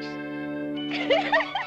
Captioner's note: giggling